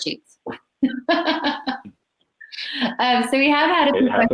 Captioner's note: laughs